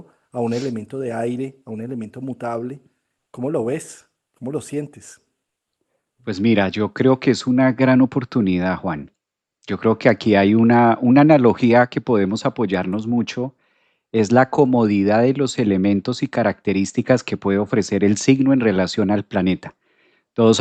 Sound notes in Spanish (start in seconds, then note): 1.2 resoplido